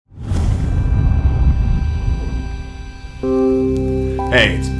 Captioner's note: swoosh Sound